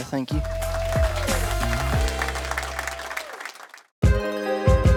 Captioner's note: audience cheering